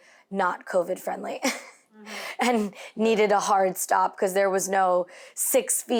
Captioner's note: laughs